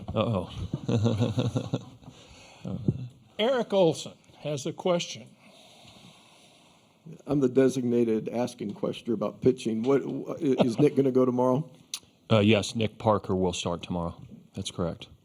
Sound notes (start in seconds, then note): 0.3 laughs